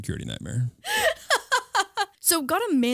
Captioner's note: laughing